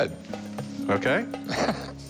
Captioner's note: laughs